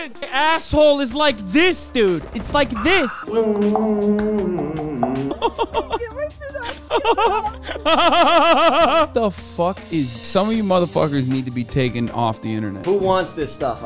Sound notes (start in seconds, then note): 2.7 beatboxing; 5.3 chortling